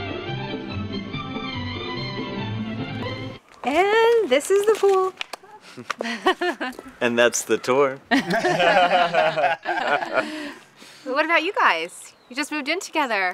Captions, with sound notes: -And this is the pool. -[LAUGHS] -And that's the tour. [LAUGHTER] -So what about you guys? You just moved in together?